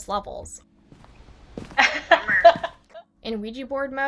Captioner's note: laughs